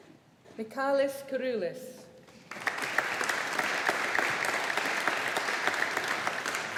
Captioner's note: audience applauding